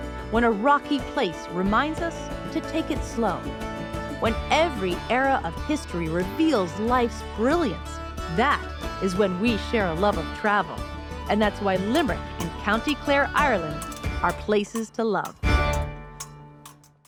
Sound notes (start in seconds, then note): none